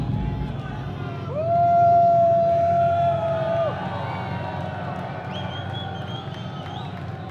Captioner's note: crowd cheers